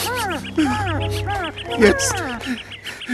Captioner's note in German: gelächter